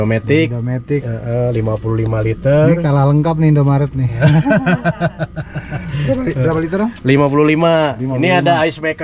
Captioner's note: laughs